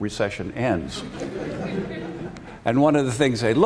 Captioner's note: laughter